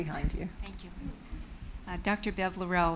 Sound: voiceover

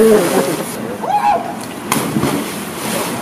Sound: splash

